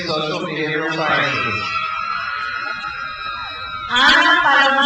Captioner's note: crowd cheers